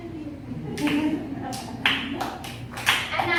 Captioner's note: sarcastic applause and laughs